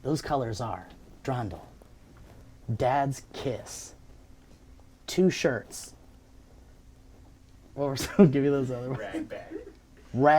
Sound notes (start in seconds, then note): 8.7 laughing